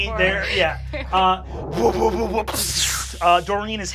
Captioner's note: psychic blasting